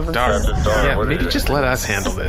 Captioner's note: voice shaking